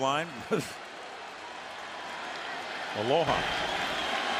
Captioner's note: chuckles